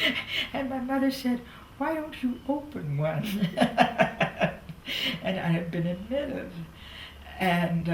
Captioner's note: laughs